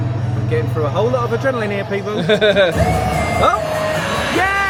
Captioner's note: laughs; bright music